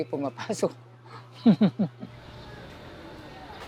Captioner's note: laughs